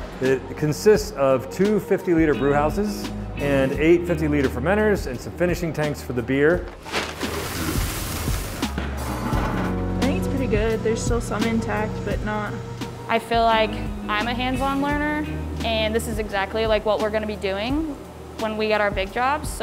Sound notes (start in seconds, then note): 6.6 paper rustling; 6.9 upbeat music; 8.9 machine whirring